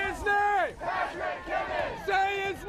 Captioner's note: chanting